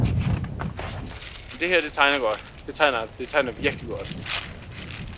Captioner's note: in Danish